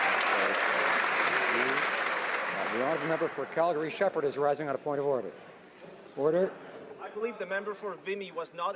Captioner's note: some Applause